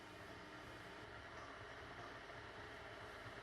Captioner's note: the kettle boiling